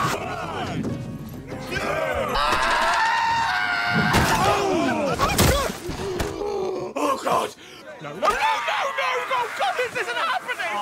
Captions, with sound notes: One! Two! [screaming] Ooh! Oh my god! Oh god! No no no no no! Oh god, this isn't happening!